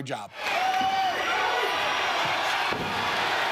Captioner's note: crowd cheers